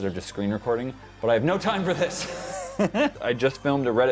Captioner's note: laughter